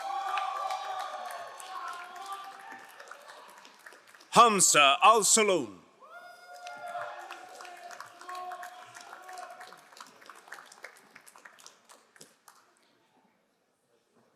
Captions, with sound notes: (crowd cheering and applauding) Khamza Al Salum. (crowd cheering and applauding)